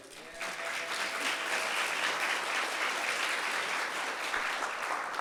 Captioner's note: audience clapping